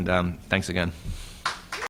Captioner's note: applause